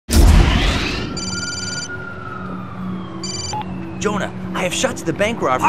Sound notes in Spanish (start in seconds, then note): 1.1 Ringtone Telefónico